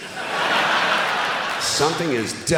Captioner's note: laughter